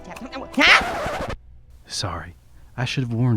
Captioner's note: record scratching